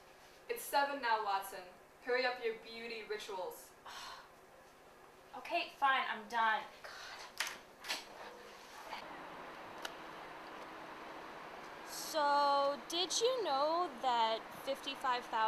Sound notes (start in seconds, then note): 3.8 sighs